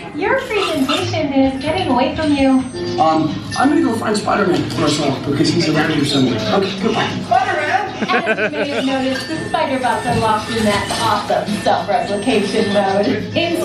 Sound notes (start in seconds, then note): 7.9 laughs